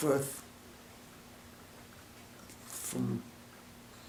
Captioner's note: silence